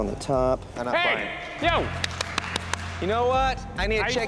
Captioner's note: clapping